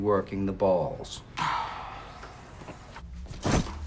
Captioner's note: Lloyd Sighs